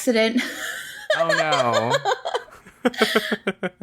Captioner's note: laughs